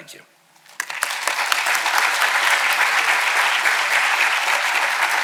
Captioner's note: audience applauding